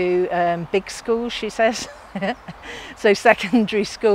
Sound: chuckles

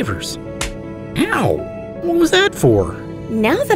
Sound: slap

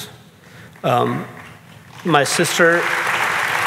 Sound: audience clapping

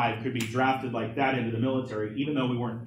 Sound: snaps fingers

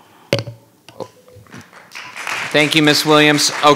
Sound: audience applauding

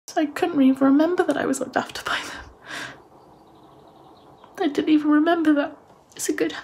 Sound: sniffling

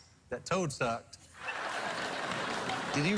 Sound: laughter

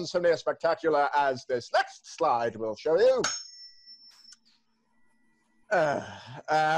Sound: tuning fork dings

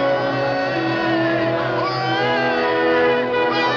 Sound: cheering

